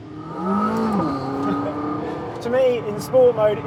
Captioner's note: engine revving